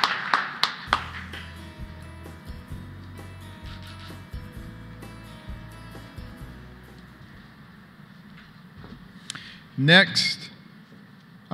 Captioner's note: applause